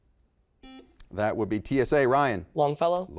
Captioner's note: beep